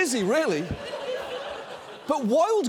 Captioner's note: audience laughs